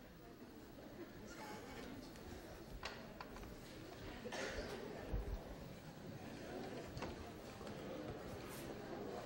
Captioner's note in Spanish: murmullos de clase